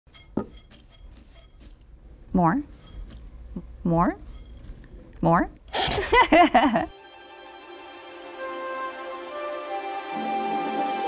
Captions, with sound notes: - More. More. More. (laughing) (orchestral upbeat music)